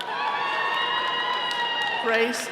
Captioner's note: all cheering